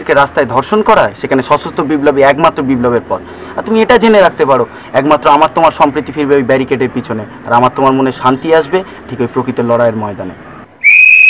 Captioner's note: whistling